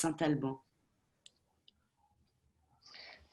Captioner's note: speaking French